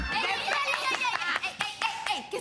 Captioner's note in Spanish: Gritos y exclamaciones